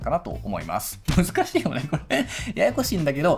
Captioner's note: laughs